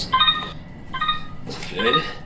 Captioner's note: instrument beeping